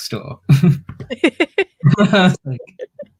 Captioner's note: laughs